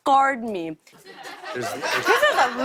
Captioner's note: laughter